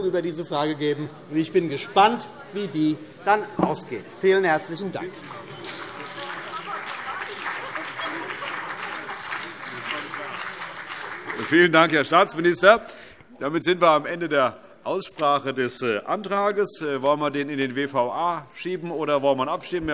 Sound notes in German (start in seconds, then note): 5.1 Beifall BÜNDNIS 90/DIE GRÜNEN und vereinzelt CDU